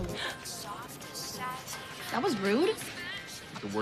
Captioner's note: gasps